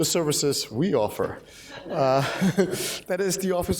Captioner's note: laughter